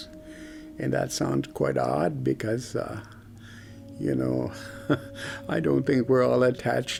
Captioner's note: laughs